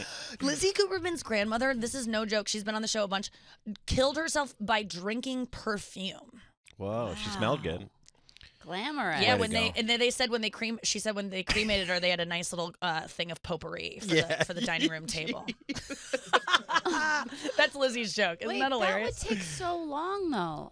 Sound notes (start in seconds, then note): 14.0 laughing